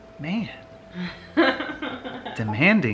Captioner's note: laughter